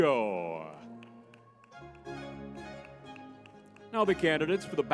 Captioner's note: lively music; crowd applauding